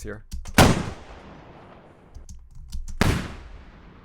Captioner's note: multiple gunshots